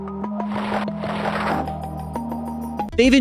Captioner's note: mysterious music; paper rustles